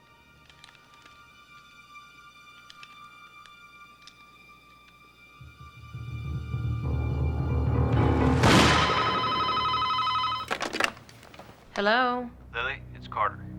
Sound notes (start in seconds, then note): 8.0 gunshot; 8.7 telephone rings